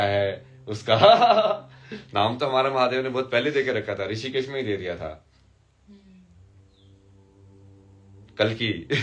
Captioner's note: हंसी